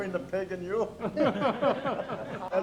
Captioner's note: everyone laughs